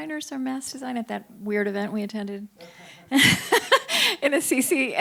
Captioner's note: chuckles